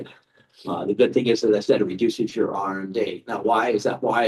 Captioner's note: chuckles